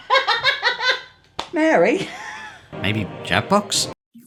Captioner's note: laughs